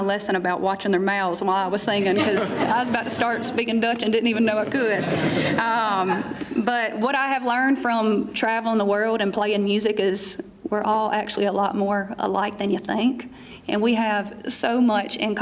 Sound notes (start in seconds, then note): 5.8 laughter